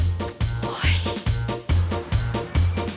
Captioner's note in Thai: ถอนหายใจ